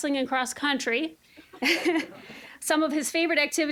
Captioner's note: audience laughing